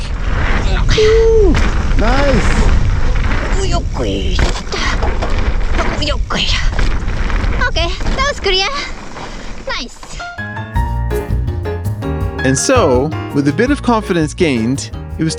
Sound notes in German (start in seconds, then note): 0.3 spricht in fremder Sprache; 10.3 schwungvolle Musik